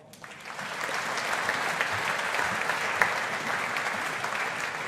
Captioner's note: audience applauding